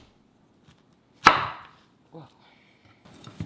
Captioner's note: knife chops